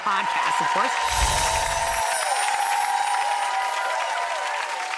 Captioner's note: audience applauding